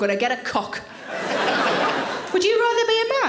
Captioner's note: audience laughing